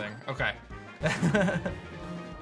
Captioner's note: giggles